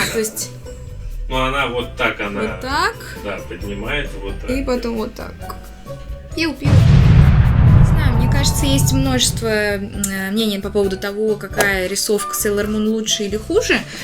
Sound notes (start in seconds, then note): 6.6 explosion